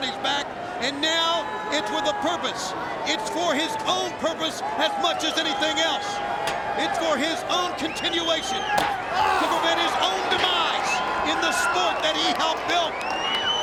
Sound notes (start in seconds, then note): 9.0 Vampiro groans